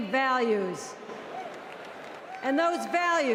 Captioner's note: cheers and Applause